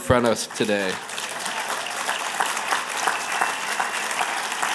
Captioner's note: applause